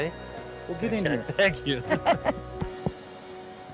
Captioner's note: laughs